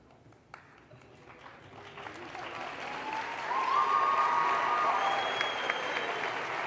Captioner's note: audience applause